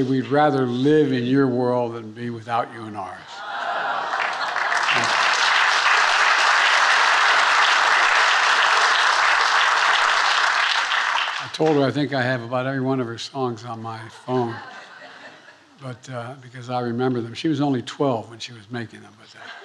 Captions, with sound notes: we'd rather live in your world than be without you in ours. (attendees applauding) I told her I think I have about every one of her songs on my phone, because I remember them. She was only 12 when she was making them.